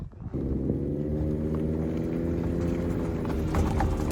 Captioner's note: engines humming